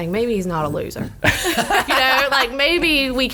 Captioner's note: laughs